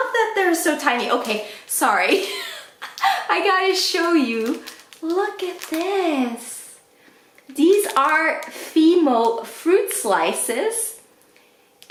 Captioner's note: laughs